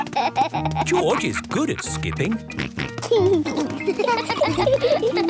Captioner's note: snort